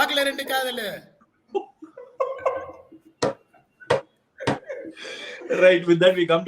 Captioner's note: laughs